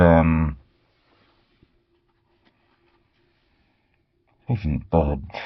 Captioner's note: silence